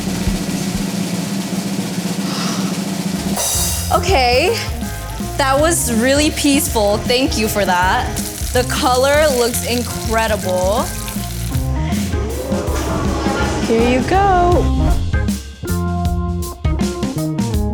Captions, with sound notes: (drum roll) Okay. That was really peaceful. Thank you for that. The color looks incredible. (Taki crackling) - [Crowd] Ooh...! Here you go. (upbeat music)